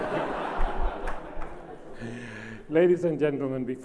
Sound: laughs

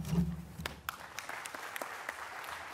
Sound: applause

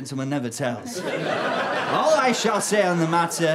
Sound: audience laughter

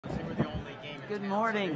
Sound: crowd talking

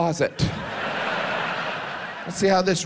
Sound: audience laughs

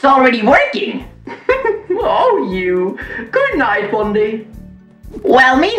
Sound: laughs

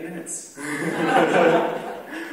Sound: laughter

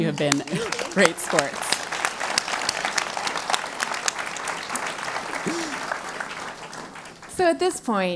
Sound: applause

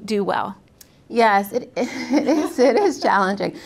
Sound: laugh

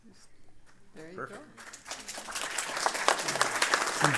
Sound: applause

